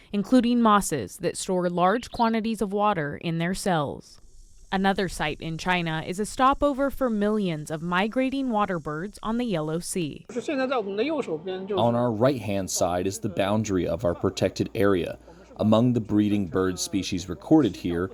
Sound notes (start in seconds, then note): 12.2 through translator